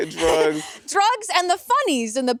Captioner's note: chuckling